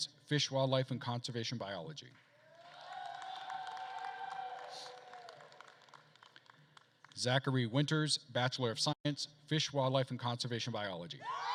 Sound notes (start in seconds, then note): 2.4 attendees cheering and applauding